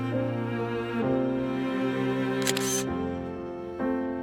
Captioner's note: camera shutter